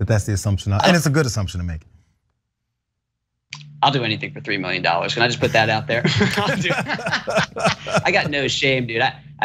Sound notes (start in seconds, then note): 6.0 laugh